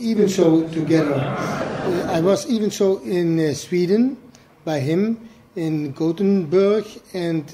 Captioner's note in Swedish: Skratt